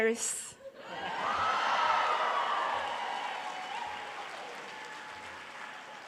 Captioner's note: audience cheering